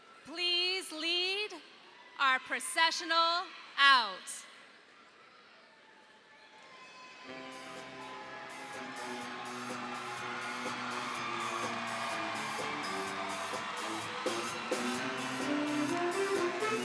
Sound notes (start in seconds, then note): 7.2 audience applauding; 7.3 cheerful upbeat music